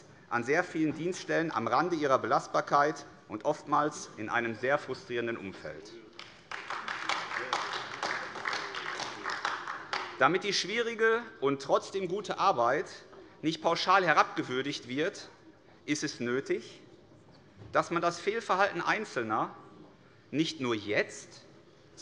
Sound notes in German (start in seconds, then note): 6.1 Beifall AfD